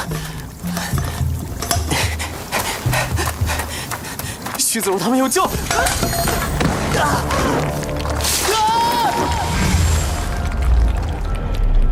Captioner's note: crash